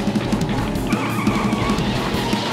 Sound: scrambling footsteps; squealing

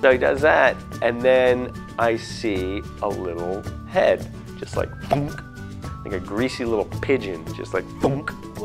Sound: plunk

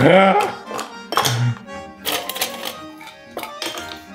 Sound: laughs; ice cubes clink

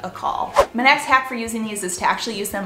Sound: whooshing

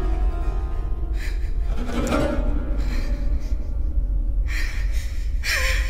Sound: shaky breathing, hyperventilating

